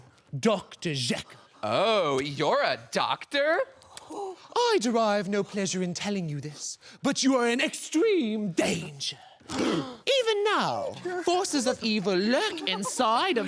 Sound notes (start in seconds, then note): 3.9 deep sighs